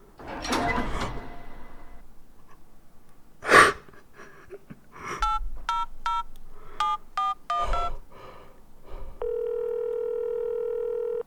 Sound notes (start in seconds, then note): 0.0 door creaking noise; 6.0 beeps for pressing buttons on a cellphone; 9.2 phone rings